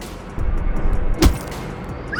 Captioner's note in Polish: uderzenie